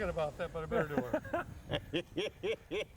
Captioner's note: laughing